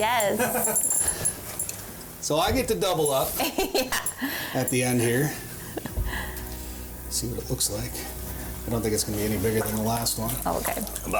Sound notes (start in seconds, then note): 0.3 laughs; 3.4 laughs